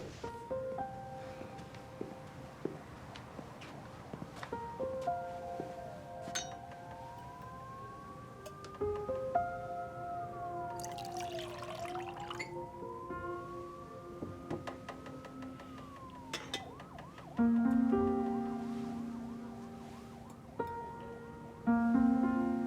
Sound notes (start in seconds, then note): 0.2 melancholy music; 6.3 glass clinks